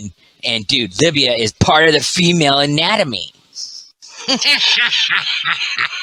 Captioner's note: laughs